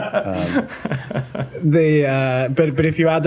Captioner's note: laughter